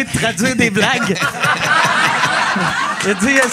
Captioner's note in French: rires